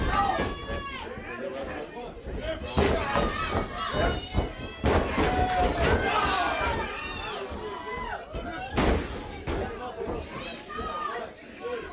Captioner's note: crowd chatter